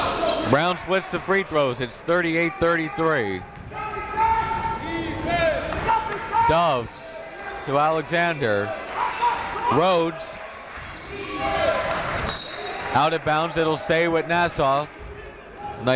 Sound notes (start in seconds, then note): 4.3 coaches yelling; 4.3 crowd talking; 12.2 whistle blows